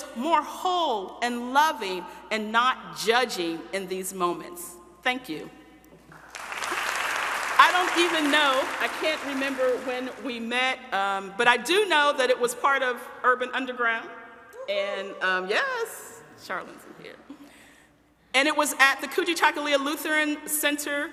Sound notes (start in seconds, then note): 6.1 audience applauding